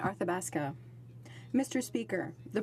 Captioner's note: speaking French